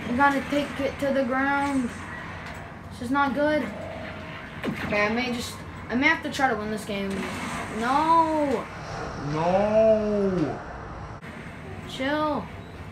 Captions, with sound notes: I gotta take it to the ground... This is not good. Okay I may just.... ...I may have to try to win this game... Nooo! [Slow motion sounds] Chill!